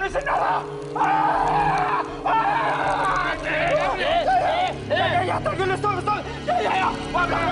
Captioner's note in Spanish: scream